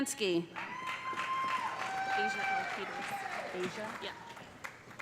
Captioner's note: cheers and applause